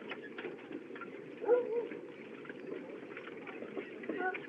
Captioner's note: dog Barks |